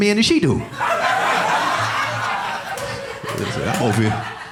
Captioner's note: audience laughing